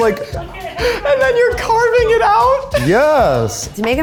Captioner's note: laughs